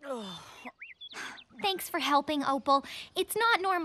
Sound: groaning; laughing

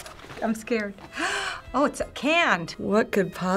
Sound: gasps

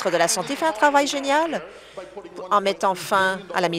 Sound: applause

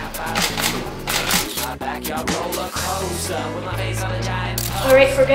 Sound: camera shutter clicking

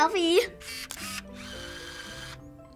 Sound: camera whirs

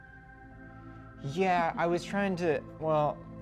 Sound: none

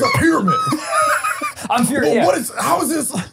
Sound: laughing

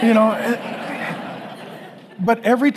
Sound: congregation laughing

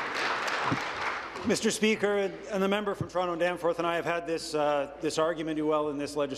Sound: applause

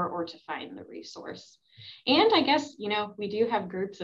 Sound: none

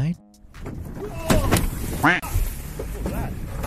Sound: boat thuds; expletive quacks

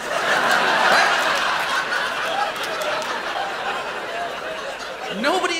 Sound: laughter

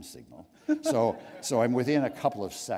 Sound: laughter

